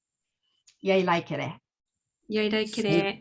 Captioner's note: speaking japanese